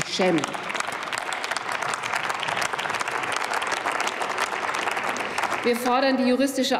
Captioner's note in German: Applaus